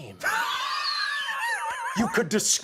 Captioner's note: laughing